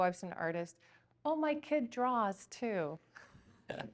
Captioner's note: laughs